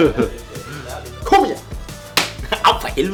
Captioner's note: smack